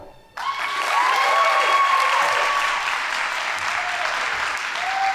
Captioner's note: audience applauding